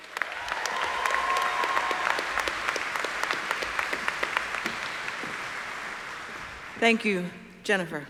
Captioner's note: applause